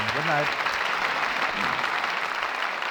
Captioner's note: applause